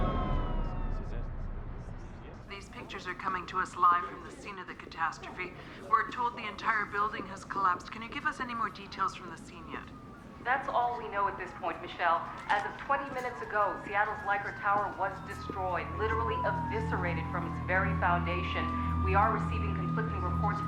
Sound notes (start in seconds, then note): 0.1 indistinct chatter; 2.3 woman 1 over TV; 10.3 woman 2 over TV